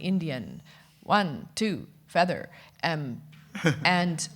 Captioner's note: chuckles